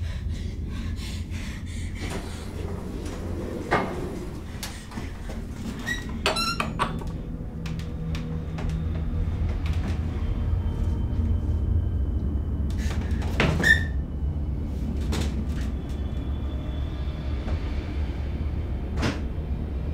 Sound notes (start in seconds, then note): 2.5 objects clattering; 5.5 door creaking; 15.3 ominous music continues